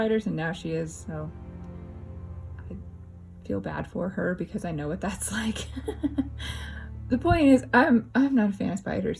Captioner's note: laugh